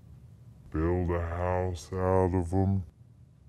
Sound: deeper, slowed-down voice

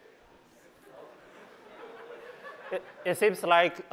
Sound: laughter

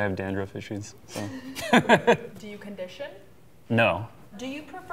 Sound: laughing

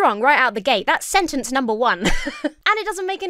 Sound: laughs

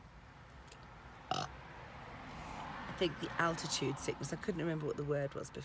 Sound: burps

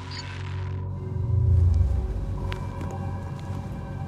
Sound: sonar Pulse

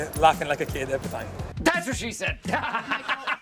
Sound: laughs

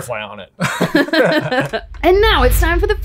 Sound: group laughing

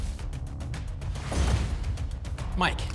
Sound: thump; whoosh

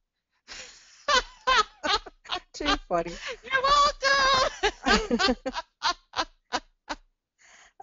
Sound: laughter; more laughter!

